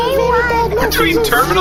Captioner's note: the gossip cube’s humming dies down